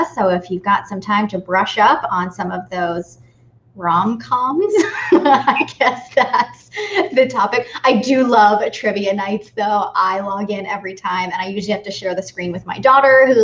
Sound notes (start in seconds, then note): 4.7 laughing